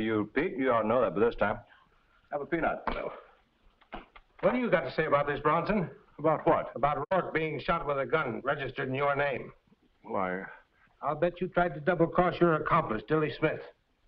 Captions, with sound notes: - No. (peanut clatters) What do you got to say about this, Bronson? - About what? - About Rourke being shot with a gun registered in your name? - Well, I... - I'll bet you tried to double-cross your accomplice, Dilly Smith.